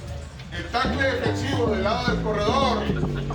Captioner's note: Spanish